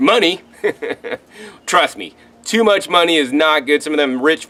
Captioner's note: laughs